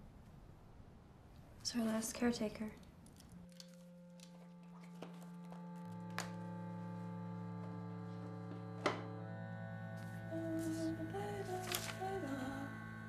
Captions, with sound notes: It was her last caretaker. [Birdie humming]